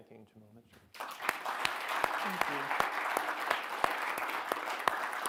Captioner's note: audience clapping